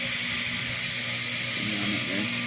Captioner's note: buzzing